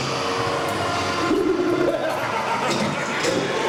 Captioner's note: skeleton laughs, crashing sounds